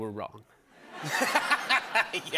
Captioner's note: laughter